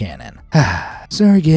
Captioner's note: sighs